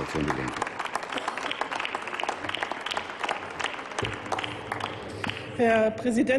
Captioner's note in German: Applaus